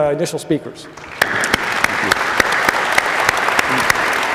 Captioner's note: applause